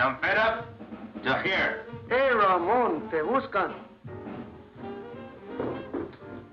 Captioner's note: speaks Spanish